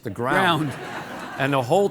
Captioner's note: audience laughing